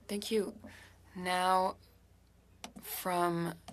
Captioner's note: speaking French